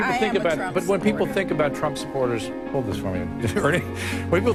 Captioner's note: laugh